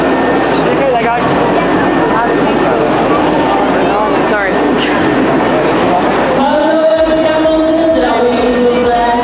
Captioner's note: crowd noise